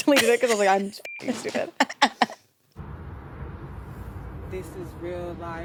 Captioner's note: beep